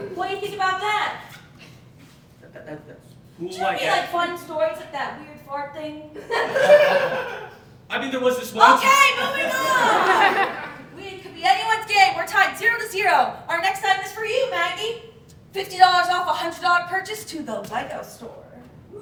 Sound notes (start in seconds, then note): 2.4 stutters; 6.2 audience Laughing